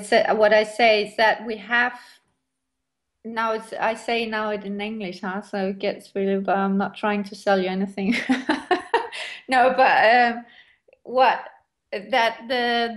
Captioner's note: laughs